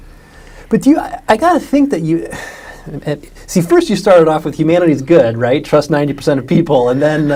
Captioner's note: sighs